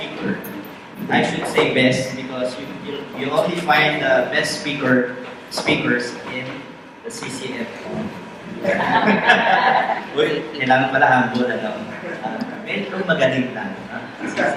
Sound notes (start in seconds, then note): 8.6 audience laughs